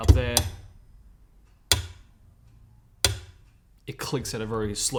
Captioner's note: metronome ticks